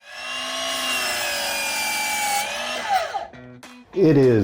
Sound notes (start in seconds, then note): 0.0 sound of saw blade cutting through wood